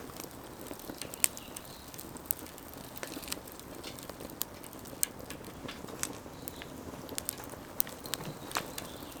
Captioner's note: fire crackling